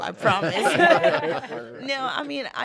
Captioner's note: laughing in unison